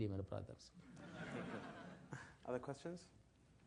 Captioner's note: laugh